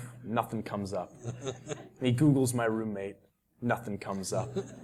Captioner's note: laugh